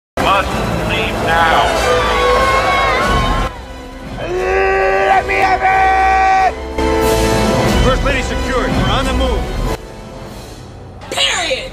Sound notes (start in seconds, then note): 0.6 on PA; 1.8 screams